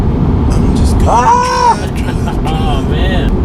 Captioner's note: shouts; laughs